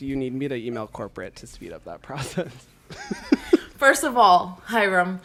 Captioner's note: laughs